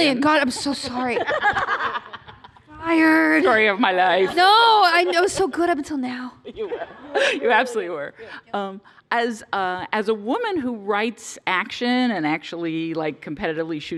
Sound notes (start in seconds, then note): 0.5 laughter